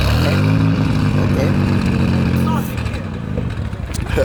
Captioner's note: engine idling